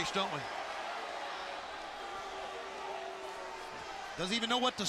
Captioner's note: crowd chatter